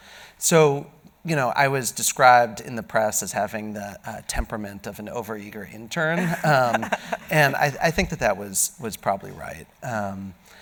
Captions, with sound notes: So, you know, I was described in the press as having the temperament of an overeager intern. (Host laughing) And I think that was probably right.